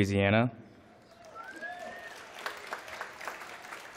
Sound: applause

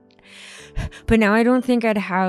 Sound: exhales

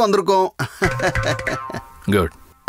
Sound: laughs

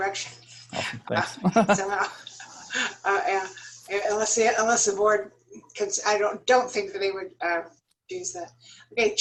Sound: laughter

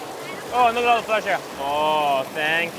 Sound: murmurs

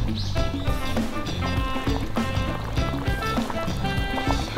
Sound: SFX: Boiling

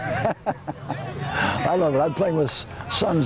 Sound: laughter

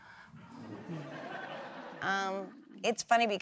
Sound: laughter

